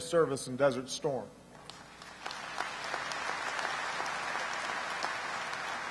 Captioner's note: applause